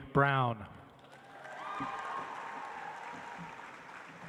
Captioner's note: audience applauds